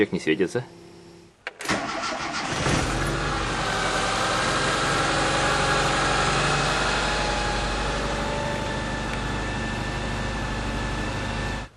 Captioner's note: steady engine sound is heard